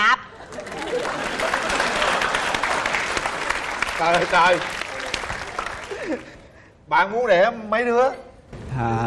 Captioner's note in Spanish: Aplaudir